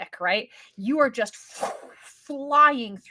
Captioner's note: imitates whooshing sound